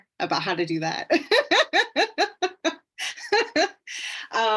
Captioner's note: laughs